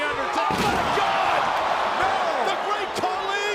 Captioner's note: table crashing